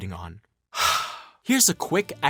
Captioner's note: sigh